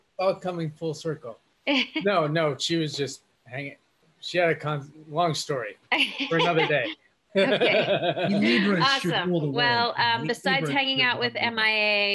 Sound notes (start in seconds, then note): 7.3 laughs